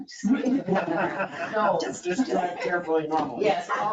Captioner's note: all laughing